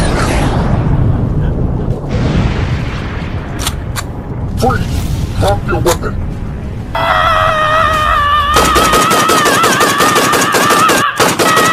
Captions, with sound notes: - Freeze, drop your weapon. (Stealth screams) (gunshots banging)